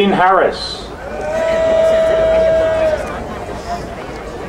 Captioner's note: crowd cheering